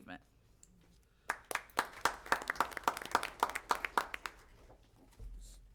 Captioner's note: applause